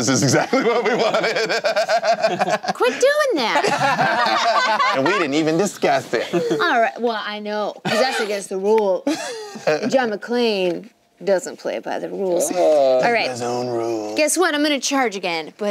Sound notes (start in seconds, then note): 0.0 laughing